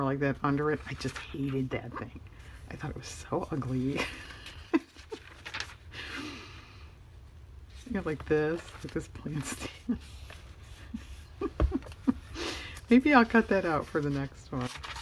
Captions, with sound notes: more like that under it, I just hated that thing, I thought it was so ugly yeah, like this look, that plant stand (laughs) maybe I'll cut that out for the next one